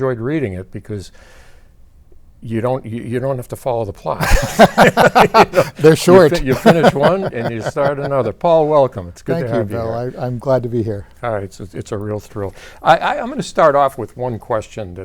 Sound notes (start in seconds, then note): 4.2 both laughing